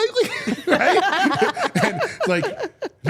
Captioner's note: people laughing